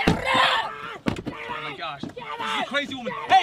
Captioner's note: speaking foreign language